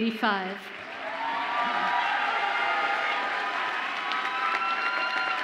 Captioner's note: audience applauds and cheers